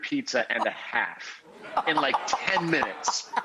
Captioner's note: laughs